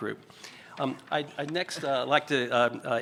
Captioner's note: whispers